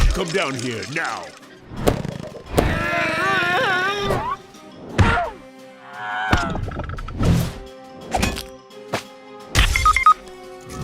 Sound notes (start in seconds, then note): 2.6 grunting